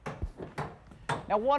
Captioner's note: wood thuds